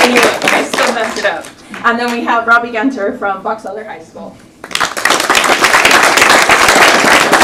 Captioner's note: applause